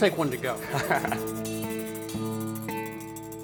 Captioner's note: laughs